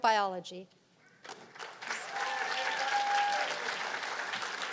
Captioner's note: cheers and applause